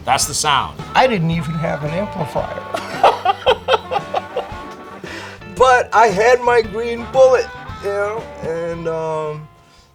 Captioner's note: laughs